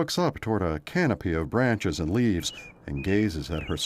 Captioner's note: vehicles passing